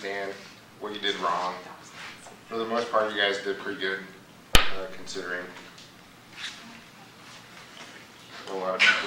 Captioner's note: students chattering in background